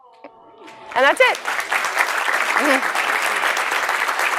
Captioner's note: applause